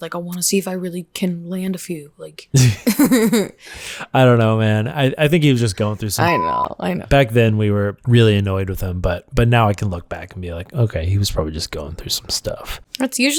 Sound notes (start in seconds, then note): 2.5 laughter